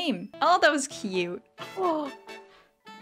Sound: off beat singing; montage gasp

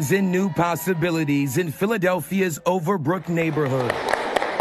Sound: applause

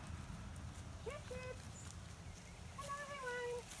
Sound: calls to sheep

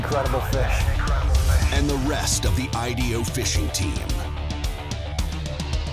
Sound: voiceover

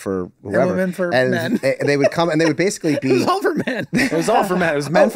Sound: laughing

